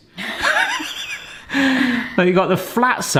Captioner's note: both laughing